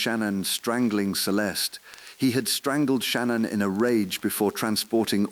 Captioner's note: exhale